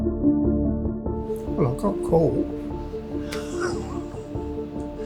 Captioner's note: laughs